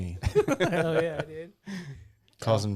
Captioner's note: laughing